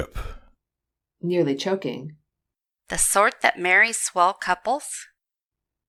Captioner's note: nearly choking